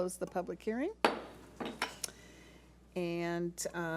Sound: thuds

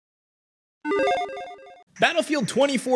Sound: logo beeping

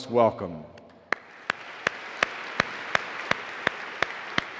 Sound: audience applauding

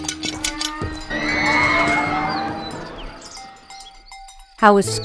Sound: cow bell ringing; people yelling similar to roller coaster falling

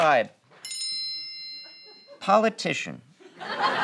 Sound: bell noise

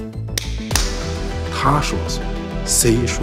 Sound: hands smack

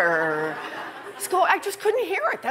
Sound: laughter

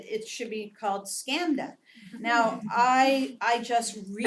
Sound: laugh

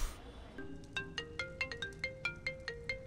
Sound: phone ringing

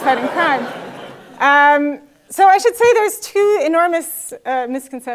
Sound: laugh

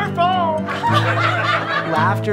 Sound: laughter

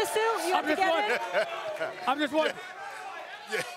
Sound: laughter

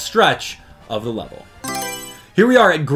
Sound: Mario Selection Sound

